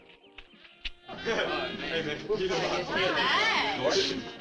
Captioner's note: teens chatting